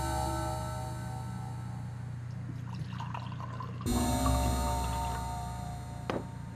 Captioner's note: pouring Liquid; sad, Ominous Music